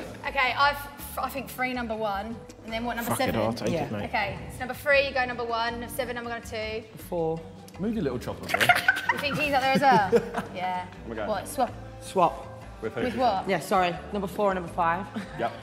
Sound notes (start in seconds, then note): 8.4 Tobi and Simon laughing